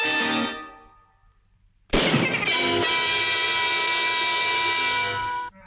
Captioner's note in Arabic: اطلاق النار بالبندقية